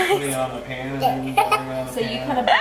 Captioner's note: chattering